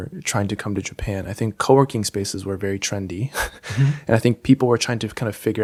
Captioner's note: chuckles